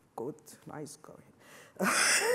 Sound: laughs

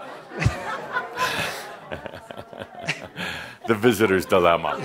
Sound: Adamus and audience chuckle

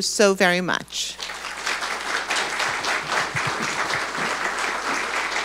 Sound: audience applauding

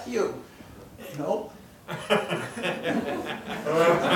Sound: laughing

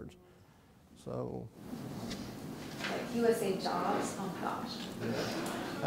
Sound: voiceover

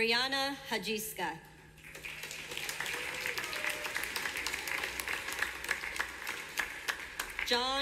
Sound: clapping from audience

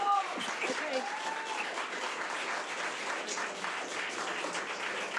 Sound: audience applause

